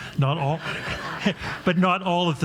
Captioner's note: audience laughs